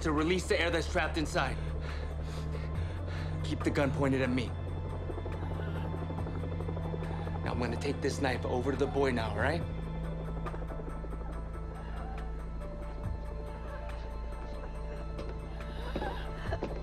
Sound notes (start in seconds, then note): 11.2 wheezing